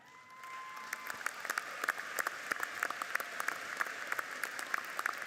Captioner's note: audience applauds